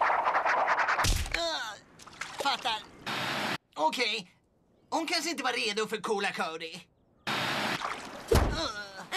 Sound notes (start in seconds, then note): 0.7 cody grunts; 7.7 groans